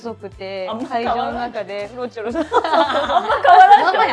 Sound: laughs

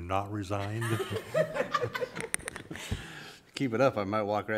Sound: laughter

